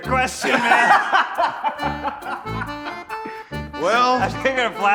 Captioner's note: laughing